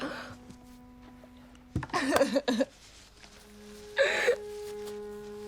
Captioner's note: sobbing